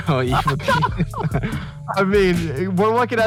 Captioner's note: both laugh